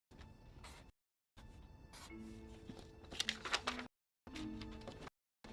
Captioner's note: marker scratching on paper